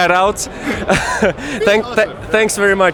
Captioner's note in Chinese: 都笑了